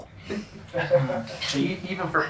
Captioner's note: laughing